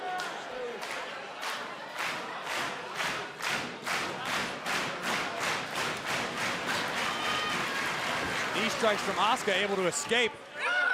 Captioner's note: crowd cheering